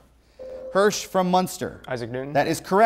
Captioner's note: buzzer